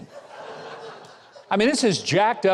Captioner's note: audience laughs